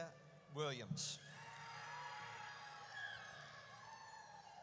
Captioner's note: audience cheers